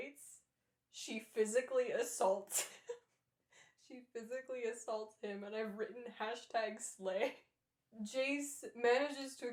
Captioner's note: laughter